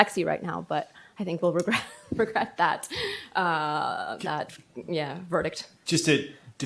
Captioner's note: laughs